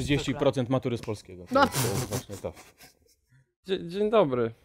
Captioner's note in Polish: tu parsknęła śmiechem